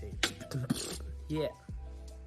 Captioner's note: beatboxing